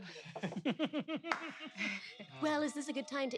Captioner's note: laughs